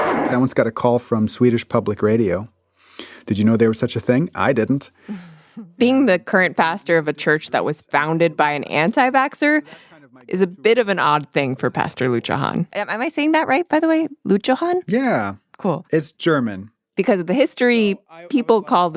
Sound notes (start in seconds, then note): none